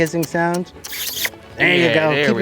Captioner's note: making kissing sounds